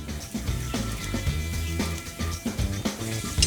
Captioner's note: sizzling